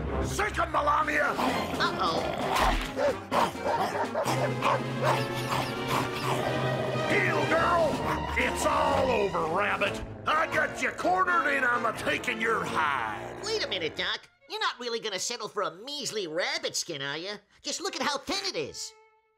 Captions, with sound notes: - Sick 'em, Melania! - Uh-oh! (dog growls) (Melania barking) - Heal, girl! It's all over, rabbit. I got you cornered and I'm takin' your hide. - Wait a minute, doc, you're not really gonna settle for a measly rabbit skin, are ya? Just looking at how thin it is.